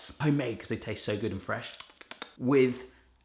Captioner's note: clicking tongue